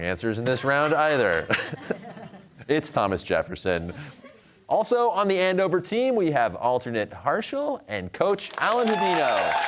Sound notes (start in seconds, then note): 0.5 laughter